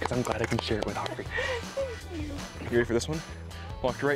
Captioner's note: chuckles